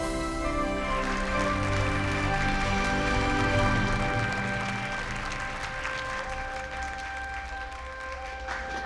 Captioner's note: applause